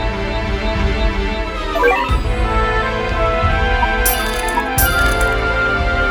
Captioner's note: sound of money